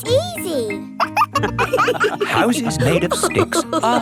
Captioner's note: wolves laughing